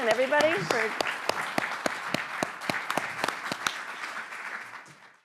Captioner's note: audience applauding